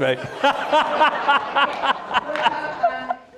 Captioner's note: laugh